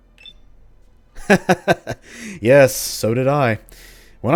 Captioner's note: he laughs